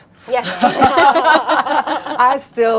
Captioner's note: laughing